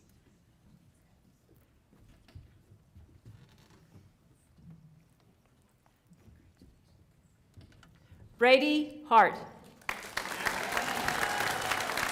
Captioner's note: applause